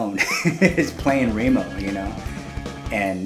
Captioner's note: laughing